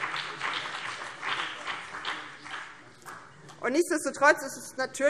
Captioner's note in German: Beifall BÜNDNIS 90/DIE GRÜNEN